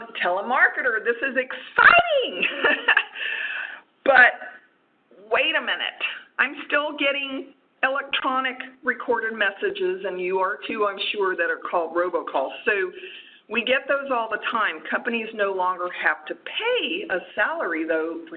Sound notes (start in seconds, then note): 2.3 laughs